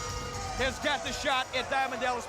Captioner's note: bell rings